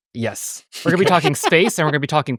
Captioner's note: everybody laughing